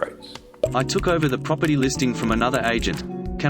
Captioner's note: voiceover